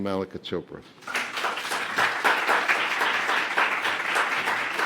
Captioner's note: applause